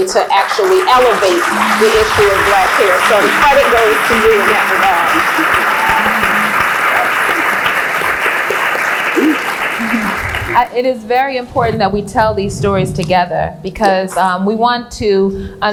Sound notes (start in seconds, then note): 4.4 applauds; 8.2 applauds; 9.5 cheers; 9.9 applauds